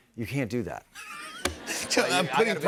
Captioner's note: laughter